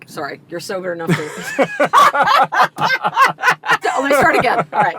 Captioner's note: both laughing